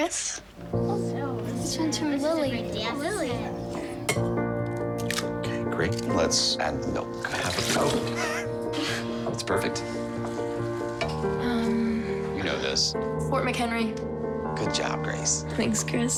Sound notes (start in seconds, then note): 0.4 friends chattering; 7.2 laughs